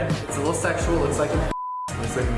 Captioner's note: beep